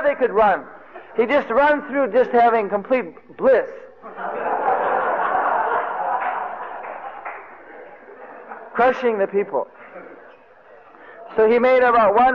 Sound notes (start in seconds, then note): 4.0 devotees laughing